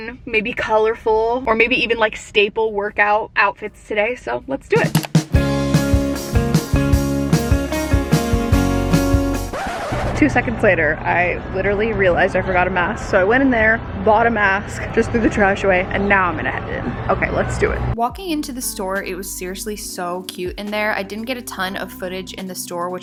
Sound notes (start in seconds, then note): 4.7 upbeat music; 9.4 record scratches